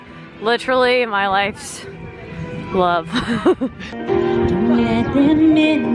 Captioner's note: laughs